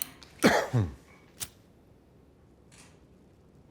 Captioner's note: Tommy coughing